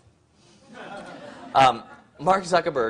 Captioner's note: crowd laughs